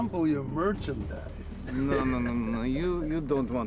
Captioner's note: chuckles